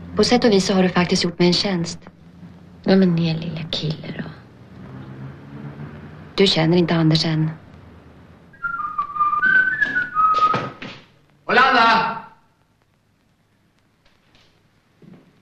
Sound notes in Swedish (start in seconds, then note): 8.5 whistles